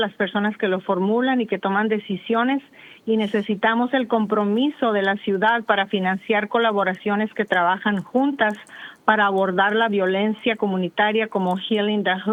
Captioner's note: speaking spanish